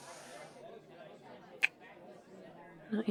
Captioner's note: kiss